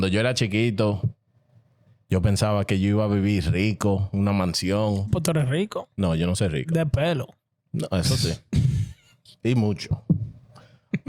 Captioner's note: speaking Spanish